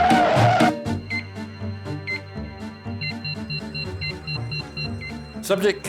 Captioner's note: machinery beeps; suspenseful music